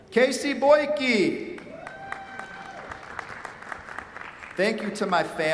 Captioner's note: cheers, applause